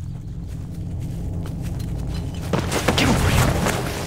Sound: footsteps; frantic whisper

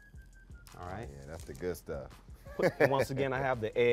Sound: laughs

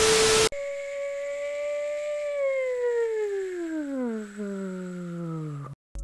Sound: plane sounds

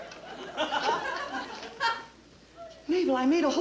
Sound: audience laughing

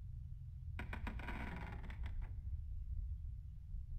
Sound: wood Creaking

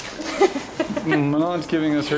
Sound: laughs

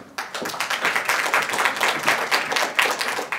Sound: applause

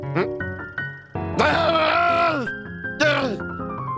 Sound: frustrated grumbles

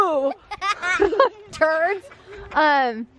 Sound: laughing

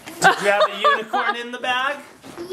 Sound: laughing

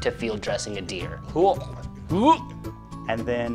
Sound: gags

